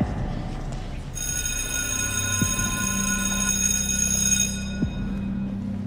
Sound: bell ringing

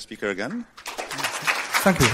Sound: applause

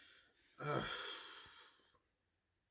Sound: Terry groans

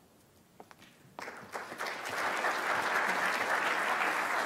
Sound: clapping

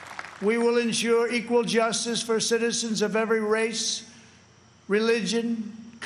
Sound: applause

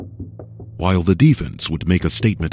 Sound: voiceover

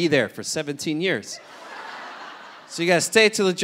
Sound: audience laughing

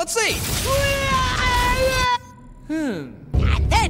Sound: screaming

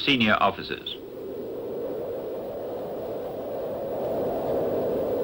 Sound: wind whistling

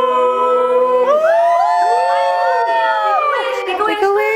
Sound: cheers

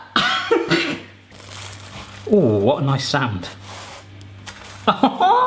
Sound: crunching; laughing

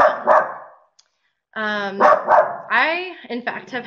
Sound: dog barking

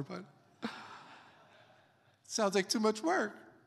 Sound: congregation laughs

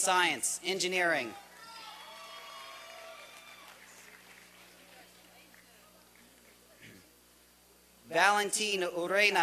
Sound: applause and cheering

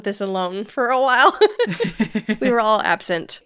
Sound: laughing

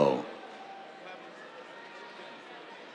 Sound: cheers

